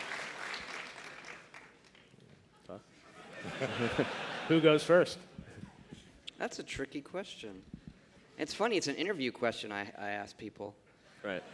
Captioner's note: applause